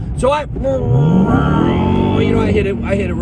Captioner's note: revving sound